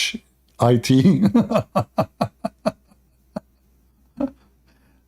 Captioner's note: Ketawa